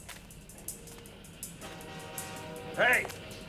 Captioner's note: train honks